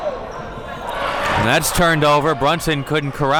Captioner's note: audience cheers